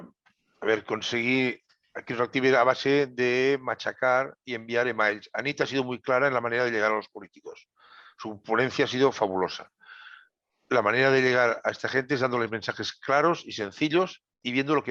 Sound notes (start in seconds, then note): 0.5 Spanish